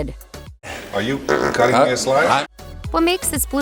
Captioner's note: farts